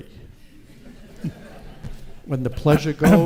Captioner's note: audience laughs